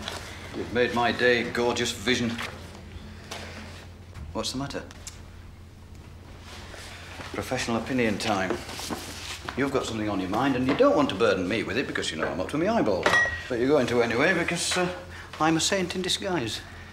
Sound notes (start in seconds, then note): 5.0 Caroline tutting